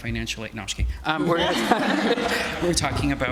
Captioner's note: participants and audience laughing